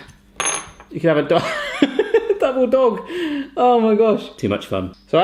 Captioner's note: laughs